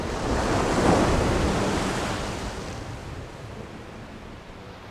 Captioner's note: sound of waves crashing